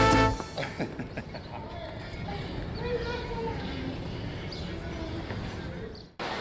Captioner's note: engine roaring; birds singing